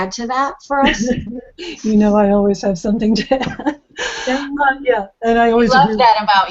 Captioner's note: laughs